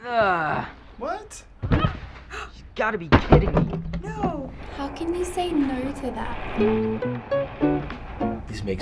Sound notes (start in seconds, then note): 0.0 boy groans; 1.6 dog grunts; 2.2 gasps; 6.6 chipper music